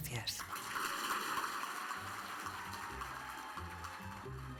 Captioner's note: audience applauds; upbeat orchestral music